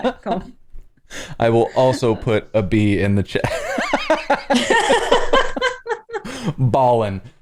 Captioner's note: laughter